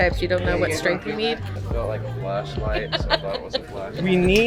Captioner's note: shopper laughing